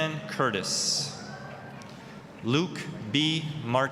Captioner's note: applause